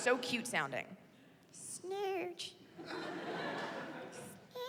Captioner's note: in high-pitched voice